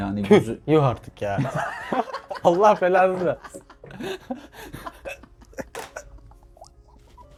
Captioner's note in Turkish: kahkaha